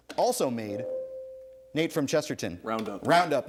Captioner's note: ding